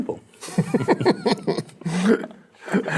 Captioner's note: laughing